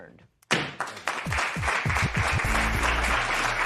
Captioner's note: applause